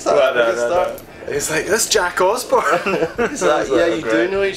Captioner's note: laughter